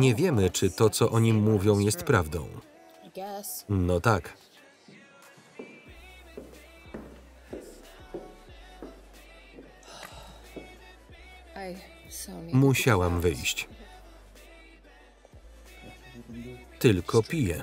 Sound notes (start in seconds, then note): 9.8 sighs; 15.8 whispering